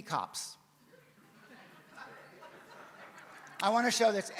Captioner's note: audience laughs